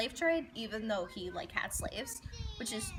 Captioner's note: kids in background